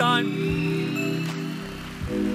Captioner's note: applause; electronical music